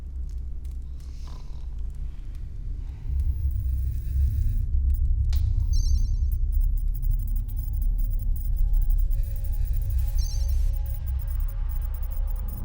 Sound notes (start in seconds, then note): 3.4 beeping